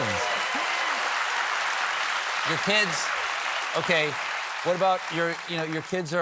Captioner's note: applause